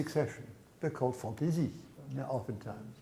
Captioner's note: speaks in foreign language